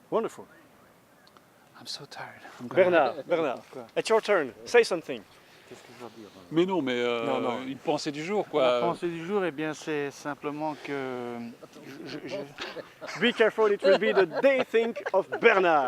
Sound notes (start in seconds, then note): 10.0 foreign dialouge; 11.4 laughing